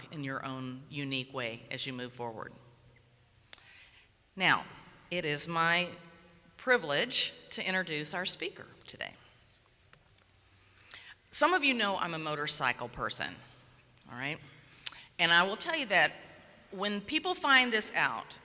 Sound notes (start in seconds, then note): none